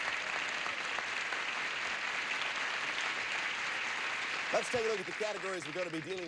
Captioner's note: audience applauding